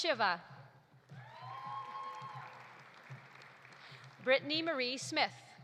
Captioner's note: audience cheering; audience applauding